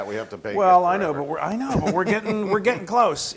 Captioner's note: laugh